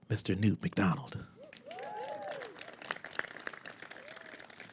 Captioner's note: applause